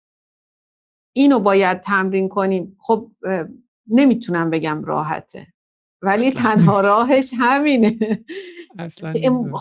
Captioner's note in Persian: خنده